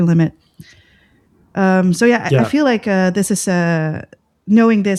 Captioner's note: uh